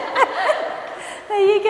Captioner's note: laughs